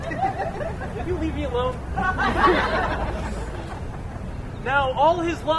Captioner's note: laughter